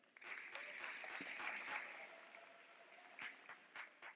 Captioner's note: clapping